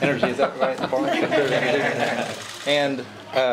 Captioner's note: laughter